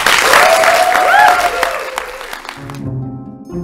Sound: applause

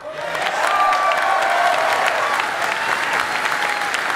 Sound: cheering

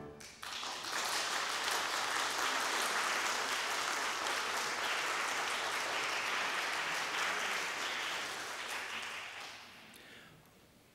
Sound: applause

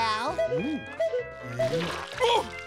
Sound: beeping

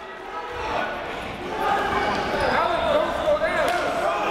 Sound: chatter

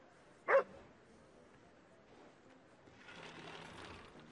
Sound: dog barking

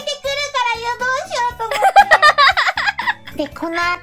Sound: laughs

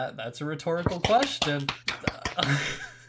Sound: audience member applauds; laughs

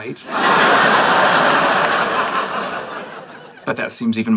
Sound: audience laughing

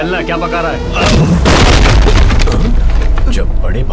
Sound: thumping

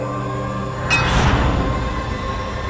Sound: clanging

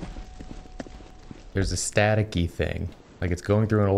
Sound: none

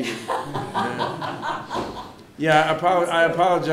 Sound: breaks into laughter

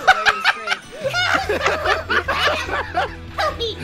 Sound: laughter

